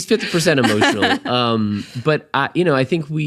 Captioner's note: laughing